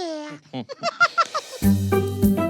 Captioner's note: laughs